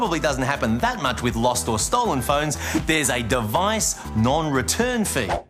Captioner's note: none